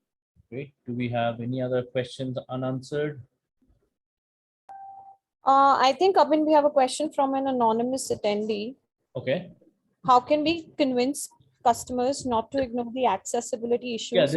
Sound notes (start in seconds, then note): 4.7 call ping